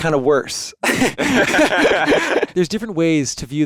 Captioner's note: both laughing